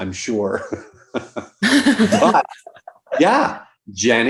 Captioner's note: all chuckling